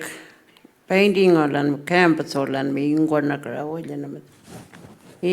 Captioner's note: speaking Anmatyerr